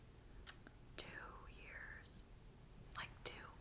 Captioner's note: clicks tongue